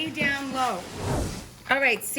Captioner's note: whooshing